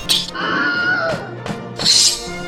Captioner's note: swords and spears clanging; screaming; swords and spears clanging